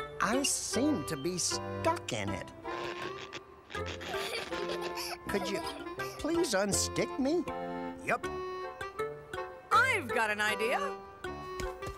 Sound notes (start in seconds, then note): 3.8 giggling